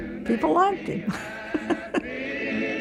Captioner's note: laughs